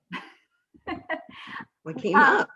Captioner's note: laughing